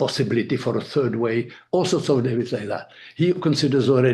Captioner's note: speaking foreign language